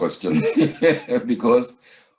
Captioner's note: giggles